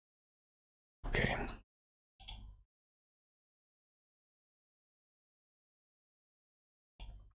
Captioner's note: blank Audio